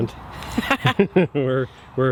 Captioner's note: both laugh